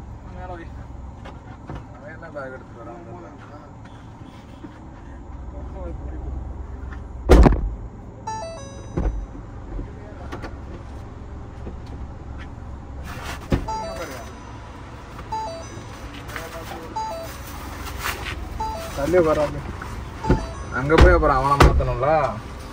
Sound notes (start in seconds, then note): 8.3 Indication sound